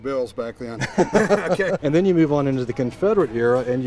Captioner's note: laughter